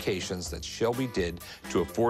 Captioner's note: none